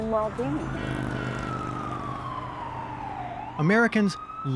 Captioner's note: sirens wailing